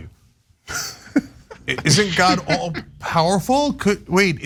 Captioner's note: laugh